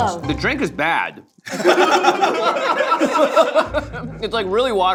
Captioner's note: laughter